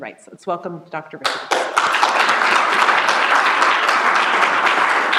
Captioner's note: applause